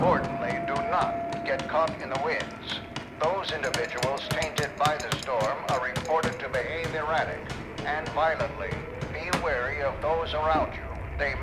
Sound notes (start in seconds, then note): 2.3 vigorous hammering